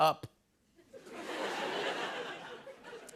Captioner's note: laughter